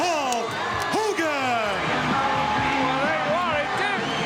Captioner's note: audience cheering